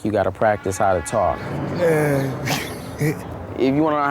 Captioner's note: chuckles